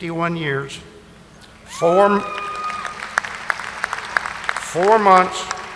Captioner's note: audience applauding